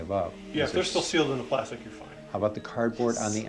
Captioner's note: whispering